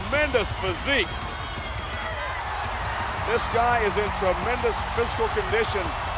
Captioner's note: applause